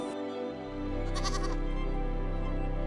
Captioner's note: goat bleats